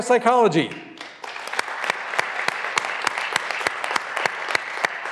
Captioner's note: graduands applauding